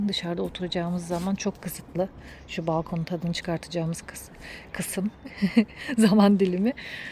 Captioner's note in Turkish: kahkaha